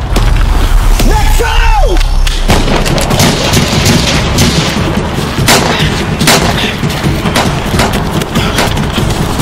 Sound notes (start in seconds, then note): 1.9 gun shots firing; 5.8 intense music